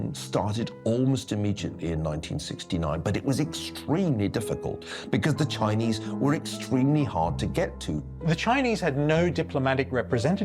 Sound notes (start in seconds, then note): none